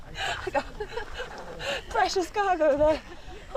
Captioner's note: laughs